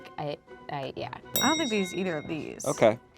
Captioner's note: bell clicking sound